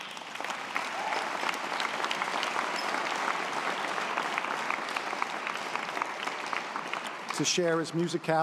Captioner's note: audience applause